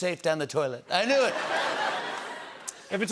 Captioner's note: laughter